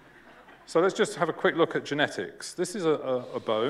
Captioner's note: laughter